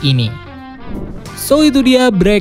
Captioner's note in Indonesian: suara transisi